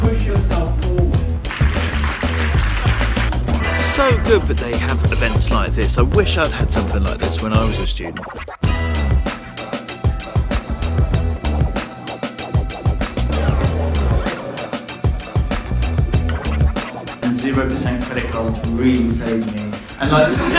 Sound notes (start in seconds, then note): 1.4 audience applauds; 8.6 upbeat music; 19.3 audience laughs